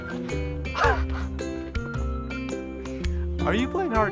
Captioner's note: laughs